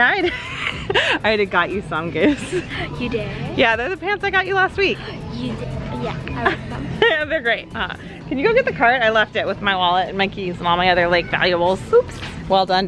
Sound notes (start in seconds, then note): 0.2 laughs; 7.1 laughs